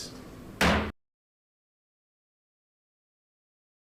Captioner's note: hammer thudding